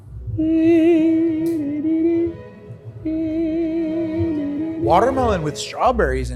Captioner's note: whimsical music; vocalizes